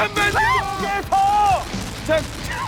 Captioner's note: shrieks